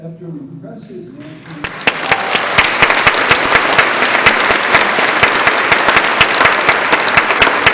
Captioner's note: applause